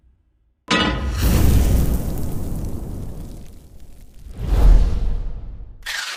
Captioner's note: pan clanks; fire whooshes